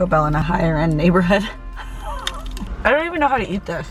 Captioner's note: laughs